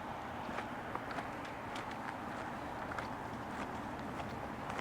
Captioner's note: early morning sounds